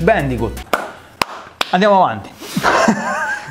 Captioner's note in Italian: clap